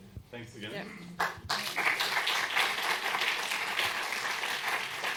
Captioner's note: applause